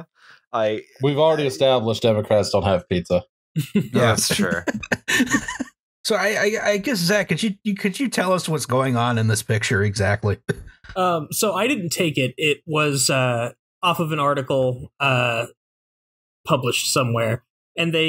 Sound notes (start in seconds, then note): 3.6 laughter